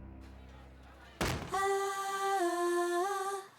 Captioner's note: crash